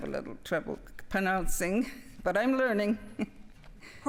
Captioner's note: speaking French